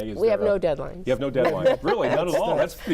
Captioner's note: laughs